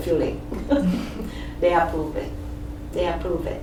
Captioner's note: laughs